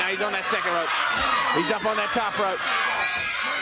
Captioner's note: crowd cheering